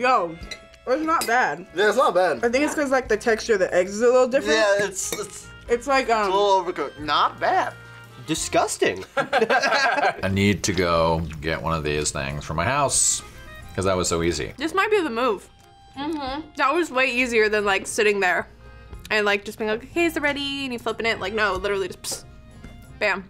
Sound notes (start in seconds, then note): 9.0 both laugh